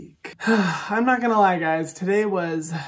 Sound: exhales; exhales

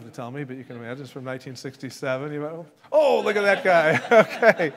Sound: laughs

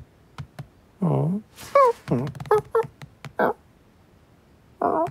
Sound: kitten stumbles again

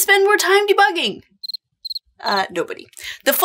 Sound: crickets chirping

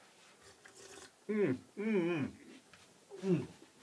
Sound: slurps water and mumbles

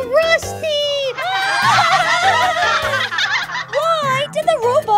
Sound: laughing

